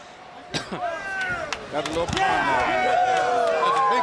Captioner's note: crowd cheering